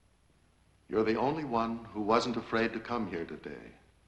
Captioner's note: none